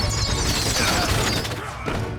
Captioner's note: grunting